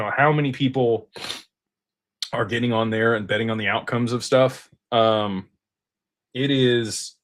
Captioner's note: snorts